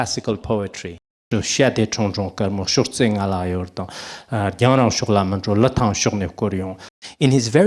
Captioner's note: recites the poem in Tibetan